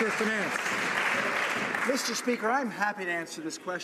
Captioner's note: some Applause